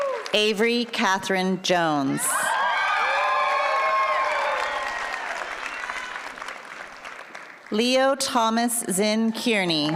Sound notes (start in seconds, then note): 0.0 applause; 2.6 applause